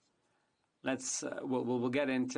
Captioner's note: speaking in French